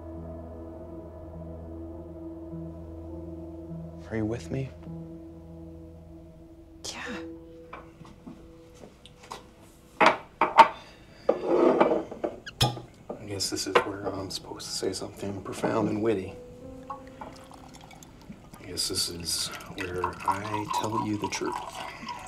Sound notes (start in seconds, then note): 11.6 glasses thudding; 12.4 cork popping; 17.0 liquid pouring